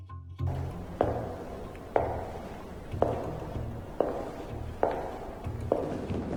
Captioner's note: Serena's heels click across the floor